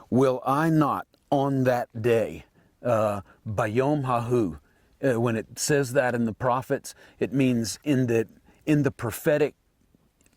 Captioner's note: Hebrew